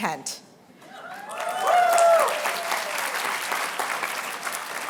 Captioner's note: applause